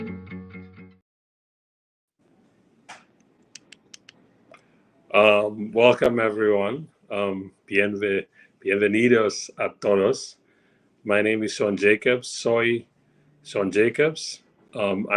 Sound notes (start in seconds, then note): 7.8 speaking Spanish; 12.5 speaking Spanish